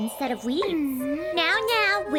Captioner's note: growls